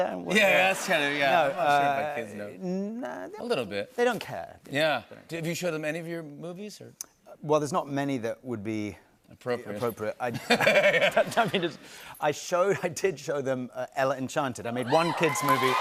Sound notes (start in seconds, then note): 10.3 laughter